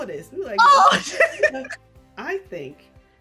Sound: chuckles

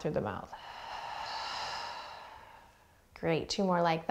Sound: heavy breathing

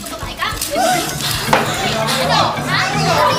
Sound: gasps

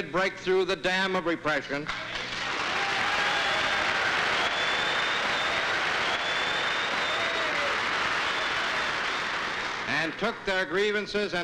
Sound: applause

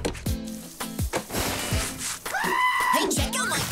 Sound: screaming

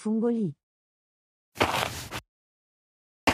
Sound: FX - Footsteps - On Multiple Dirt - Walk

